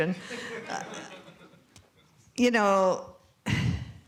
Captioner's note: laughter